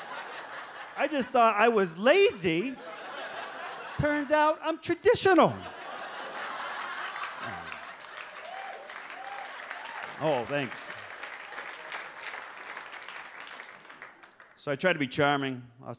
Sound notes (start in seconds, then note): 0.0 audience laughs; 6.8 audience laughs and claps